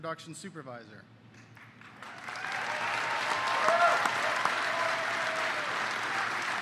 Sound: applause

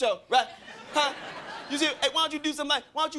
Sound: crowd laughing

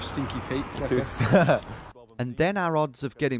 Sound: laughing

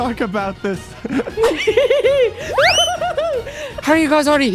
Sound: giggling

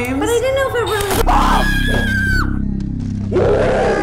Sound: screams; terrifying close ups, with slowed down screams

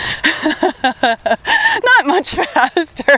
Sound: laughs

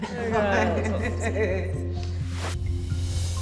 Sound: everyone laughs

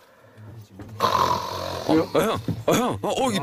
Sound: snores loudly

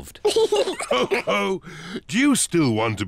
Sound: all laugh

